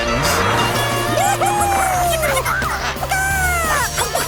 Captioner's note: cheering, clucking